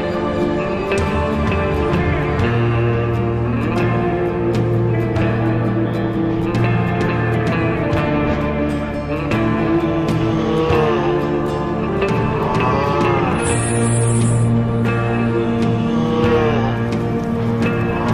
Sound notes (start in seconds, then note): 8.2 groaning; 9.6 hiss; 15.6 groaning